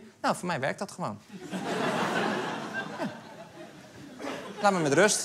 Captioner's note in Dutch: Gelach